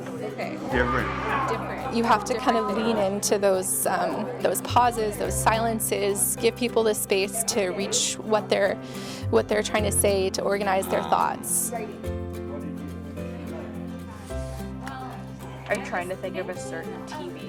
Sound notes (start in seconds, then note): 13.8 group chatting together